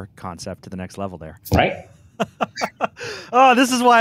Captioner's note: laughs